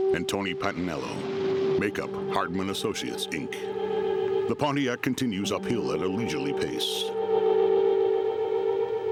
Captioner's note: engine humming